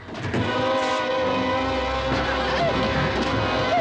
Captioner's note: whimpering